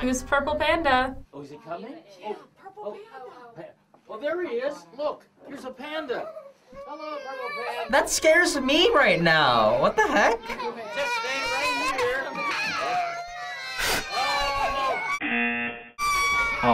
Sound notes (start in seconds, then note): 9.6 children crying; 14.0 laughs; 15.2 buzzer rings